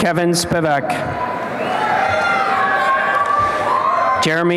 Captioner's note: applause and cheering